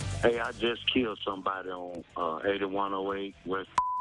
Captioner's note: beep